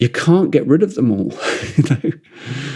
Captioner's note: laughs